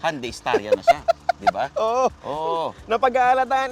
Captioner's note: laughs